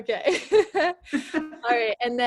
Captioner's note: laughs